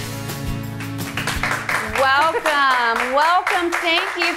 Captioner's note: audience applauding